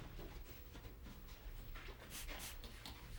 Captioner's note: none